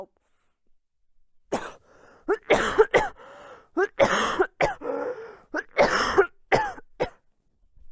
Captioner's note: coughing fit